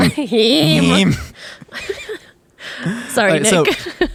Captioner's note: both laughing